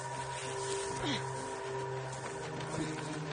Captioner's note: grunting